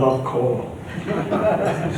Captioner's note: chuckles